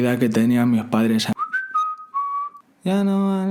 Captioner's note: whistle